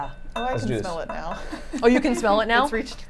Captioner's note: laughs